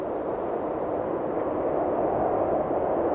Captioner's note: wind howling